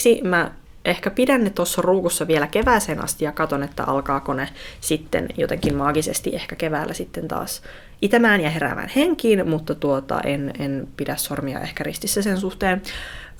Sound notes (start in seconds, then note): none